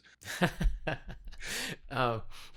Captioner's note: laughing